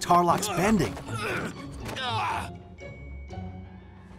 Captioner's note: grunting